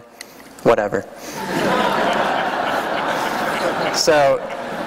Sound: laughter

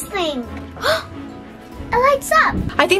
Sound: gasps

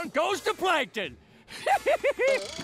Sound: laughing

